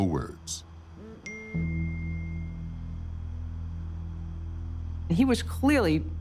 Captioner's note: ding